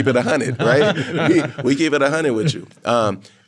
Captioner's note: all laughing